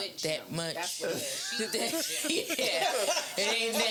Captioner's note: laughing